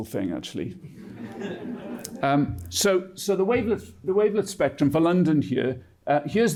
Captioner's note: laughter